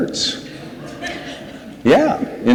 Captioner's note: audience laughs